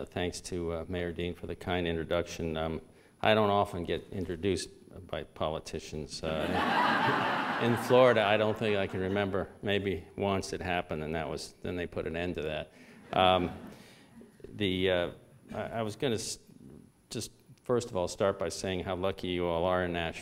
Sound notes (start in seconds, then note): 6.4 laughter; 14.6 subdued laughter